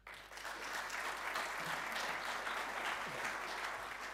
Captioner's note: audience applauding